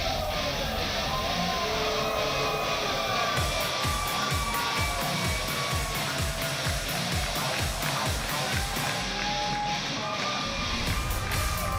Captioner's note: crowd cheering